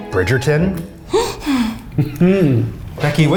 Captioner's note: gasps